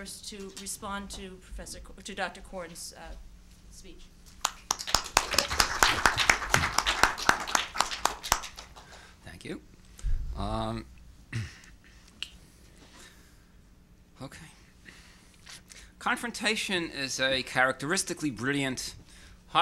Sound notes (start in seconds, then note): 4.4 audience applauding